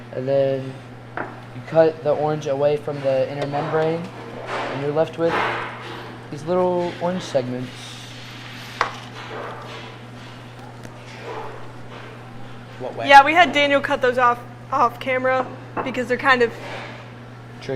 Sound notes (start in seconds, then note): 5.2 loud banging nearby